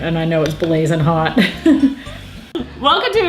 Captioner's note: laughs